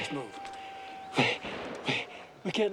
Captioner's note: panting